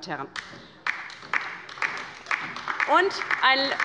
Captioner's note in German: Beifall bei der LINKEN